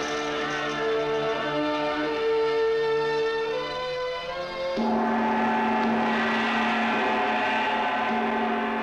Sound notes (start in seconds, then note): 4.7 gong resounding